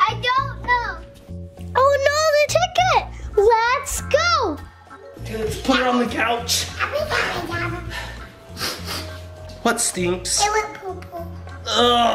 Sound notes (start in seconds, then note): 8.5 dad smelling